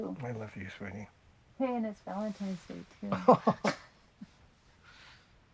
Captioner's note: both giggle